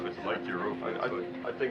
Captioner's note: people chattering